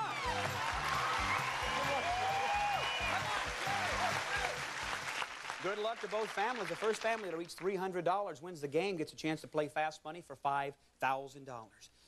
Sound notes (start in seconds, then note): 0.0 crowd cheers